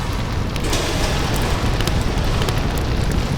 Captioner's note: roaring fire